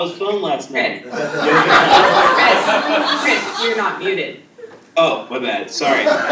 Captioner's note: laugh